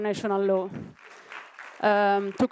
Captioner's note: applause